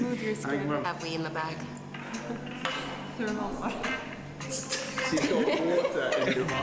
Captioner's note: laughter